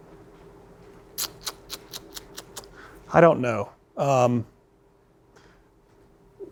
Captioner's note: clicks tongue